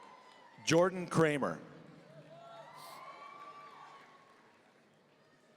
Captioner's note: audience cheering; audience cheering